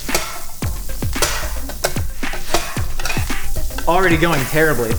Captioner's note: butter sizzling; scraping griddle